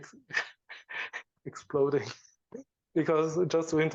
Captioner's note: laughs